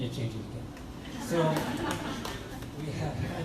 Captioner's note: crowd laughs